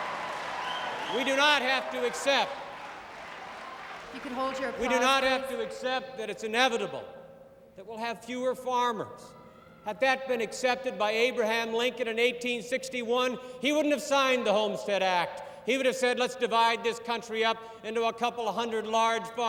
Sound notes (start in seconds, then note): 0.0 applause; 1.5 applause